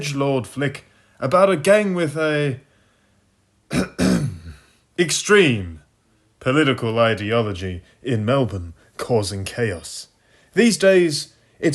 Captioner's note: ahem